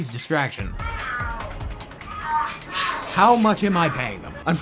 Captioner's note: cat noises